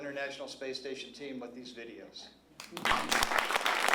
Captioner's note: applause